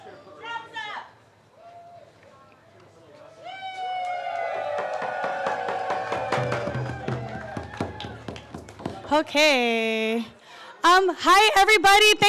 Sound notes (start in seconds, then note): 3.4 cheers and applause; 5.1 drumming